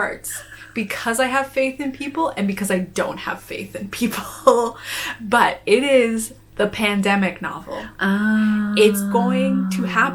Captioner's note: ahhhhhh